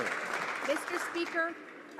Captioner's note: applause